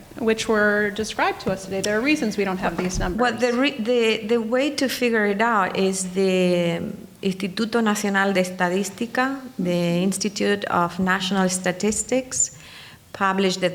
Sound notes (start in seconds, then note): 7.5 speaking in foreign language